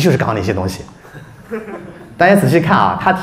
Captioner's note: audience laughs